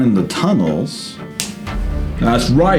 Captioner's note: snaps fingers